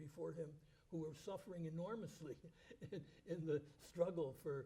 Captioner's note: chuckles